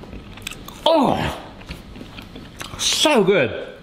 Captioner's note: chewing noises